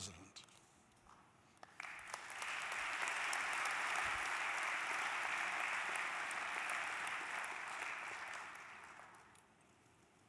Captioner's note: applause